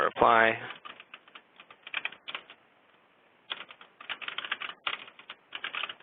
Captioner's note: typing